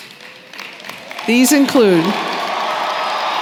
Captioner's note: cheering & applause